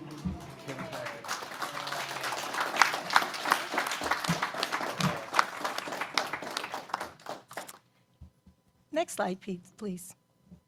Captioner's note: applause